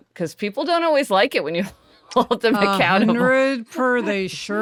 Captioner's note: laughs